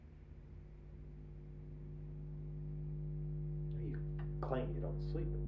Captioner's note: buzzing frequency